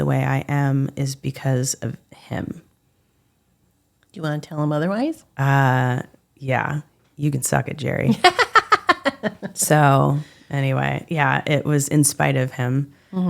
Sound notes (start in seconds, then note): 8.2 laughing